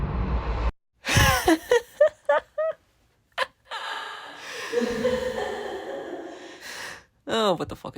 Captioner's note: insane laughter